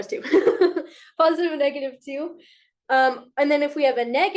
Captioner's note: chuckles